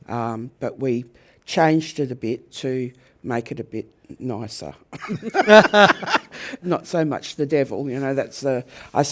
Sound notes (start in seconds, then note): 5.0 laugh